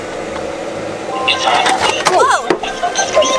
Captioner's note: spooky voice